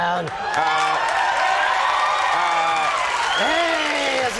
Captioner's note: audience cheers